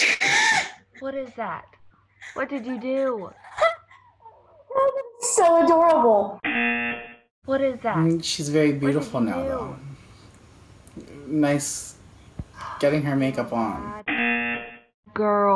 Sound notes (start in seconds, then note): 2.2 Xochitl laughs; 6.4 buzzer rings; 14.0 buzzer rings